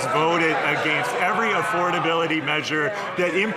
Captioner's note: some Applause